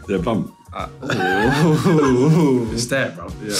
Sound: all laughing

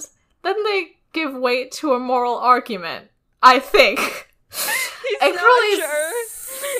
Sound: laughs

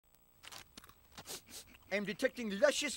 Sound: crunching, Comic Book Guy sniffing

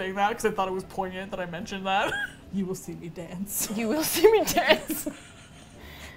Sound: laughs; both laugh

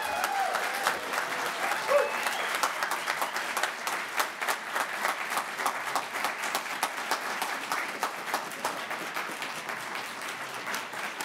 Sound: applasue

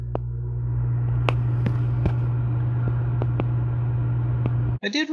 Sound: fan Sound

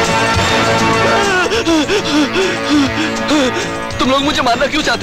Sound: gasps

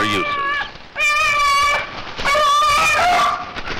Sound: beagles calling

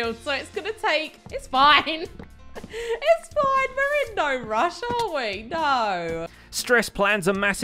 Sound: giggling

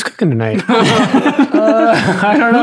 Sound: friars laughing

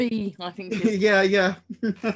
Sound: laughs

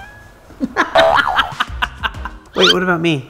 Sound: laughs

